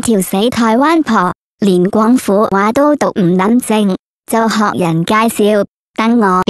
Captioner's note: Cantonese